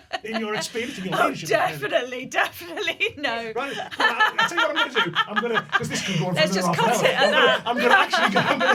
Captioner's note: laughter